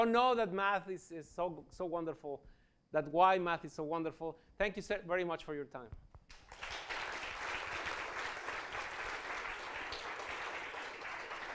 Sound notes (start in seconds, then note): 6.3 applause